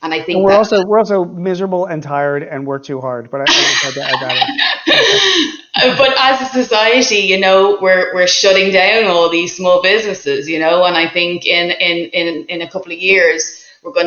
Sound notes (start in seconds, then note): 4.9 laughing